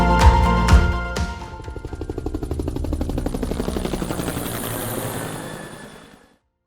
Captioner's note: helicopter whirs